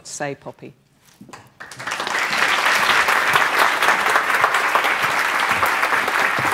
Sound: applause

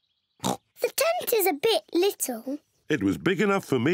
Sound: oinks

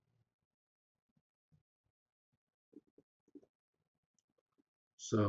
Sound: pause

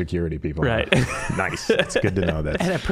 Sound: laughing

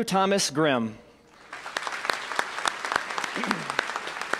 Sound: applause

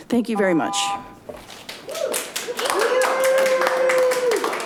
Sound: audience applauds

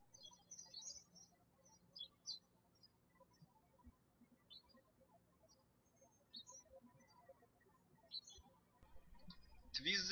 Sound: birds chirping

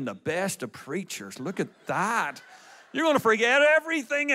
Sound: audience laughs

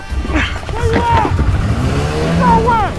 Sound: engine revs

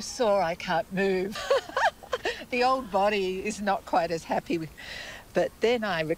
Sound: laughs

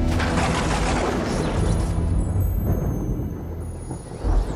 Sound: thunder booming

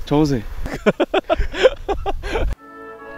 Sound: laughs

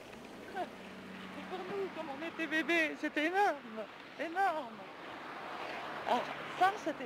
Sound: speaking in foreign language

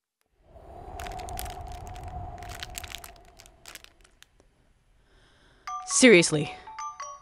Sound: air whooshing; paper rustling

